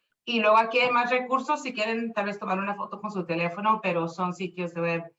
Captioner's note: speaking Spanish